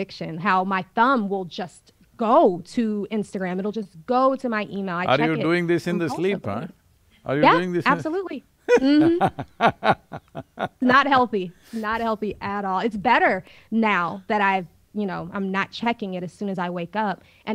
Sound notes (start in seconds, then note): 8.6 Sadhguru laughs